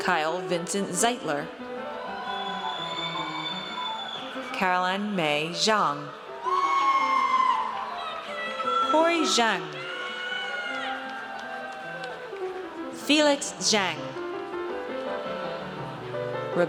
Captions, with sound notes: Kyle Vincent Zeitler. (audience cheers) Caroline Mei Zhang. (audience cheers) Corey Zheng. Felix Zheng.